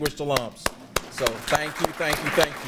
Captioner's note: everyone applauding